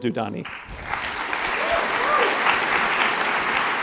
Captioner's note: applause